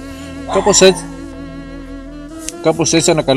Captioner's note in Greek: γαβγισμα